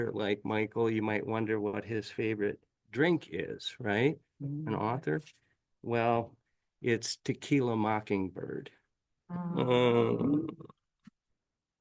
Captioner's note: audible groans